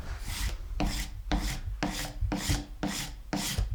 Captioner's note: sharpening chisel